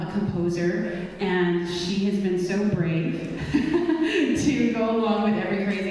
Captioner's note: laughs